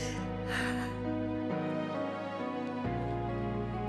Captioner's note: sighs